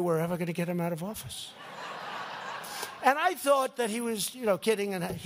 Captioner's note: laughter